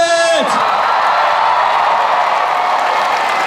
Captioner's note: cheering